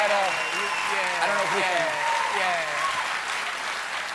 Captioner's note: cheers and applause